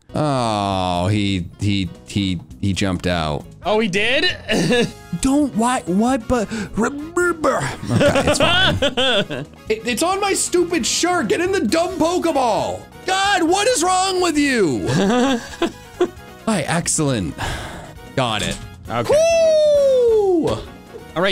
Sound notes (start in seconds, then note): 7.6 laugh; 14.8 laugh